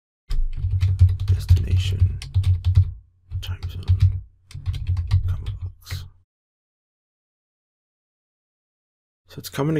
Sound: typing

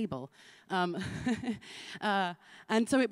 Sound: laughs

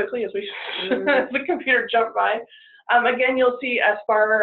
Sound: chuckles

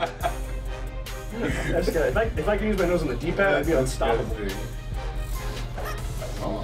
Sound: laugh

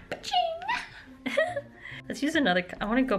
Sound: laughter

